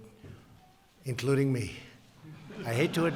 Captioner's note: laughter